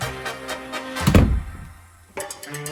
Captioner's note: pompous comedy music; door slam; pompous comedy music